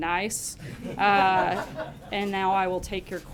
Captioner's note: laughter